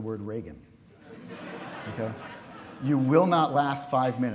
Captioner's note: audience laughs